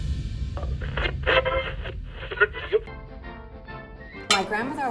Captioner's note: changing radio stations, old AM radio